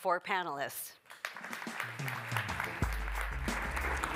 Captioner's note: applause, music playing